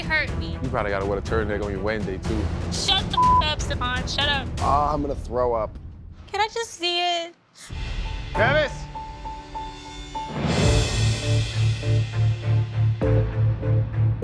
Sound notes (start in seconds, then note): 3.1 beeping; 11.0 soft dramatic music